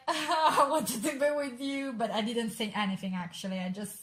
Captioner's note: sob